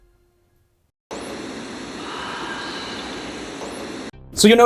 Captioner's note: static hisses; ghost whispering